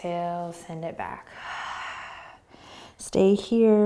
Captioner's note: exhaling